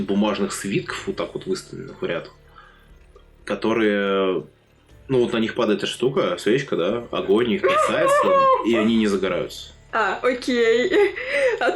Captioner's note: sounds of suffering